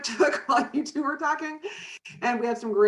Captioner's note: chuckles